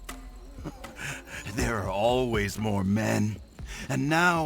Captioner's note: laughs